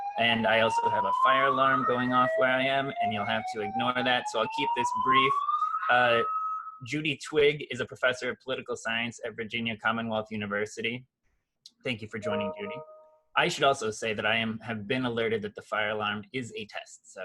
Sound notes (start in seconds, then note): 12.2 message alerts